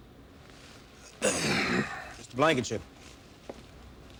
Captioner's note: grunts